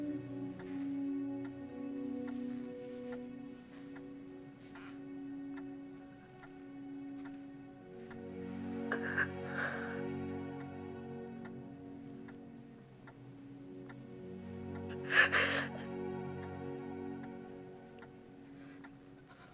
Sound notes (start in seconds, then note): 14.8 sobbing